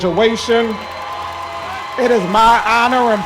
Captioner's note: cheering